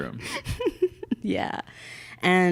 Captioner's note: laughing